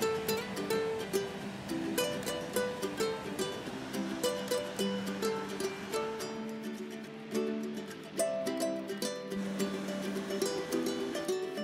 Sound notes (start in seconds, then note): 1.8 burner softly whirring; 3.8 soft music